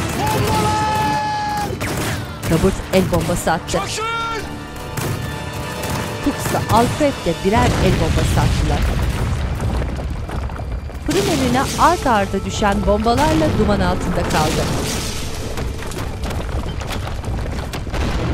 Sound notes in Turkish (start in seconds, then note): 1.9 Silah sesleri; 7.5 Patlama sesi; 16.8 Müzik - Hüzünlü